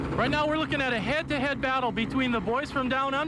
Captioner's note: helicopter chopping